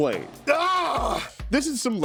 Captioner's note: yelling